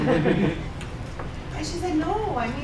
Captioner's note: laughing